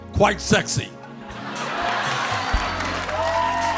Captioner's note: cheers and applause